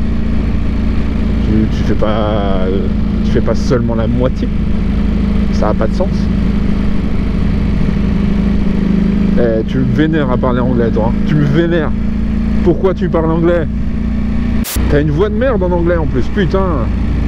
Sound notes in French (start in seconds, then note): none